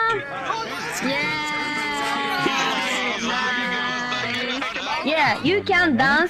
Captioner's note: cheering